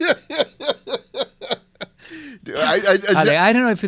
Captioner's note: laughs